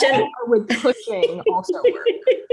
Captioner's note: laughing